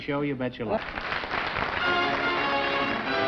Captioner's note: applause